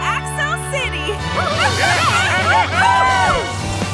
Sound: cheering

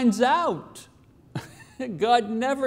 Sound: laughs

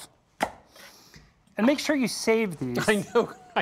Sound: laughing

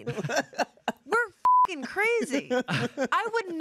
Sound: beep

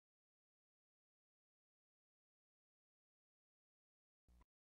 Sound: silence

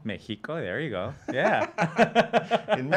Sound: laughing

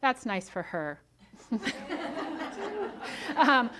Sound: audience laughs

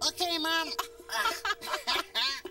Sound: both laughing

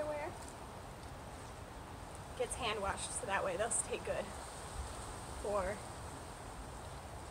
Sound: wind; wind and thud

